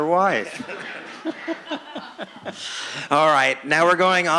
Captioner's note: laughing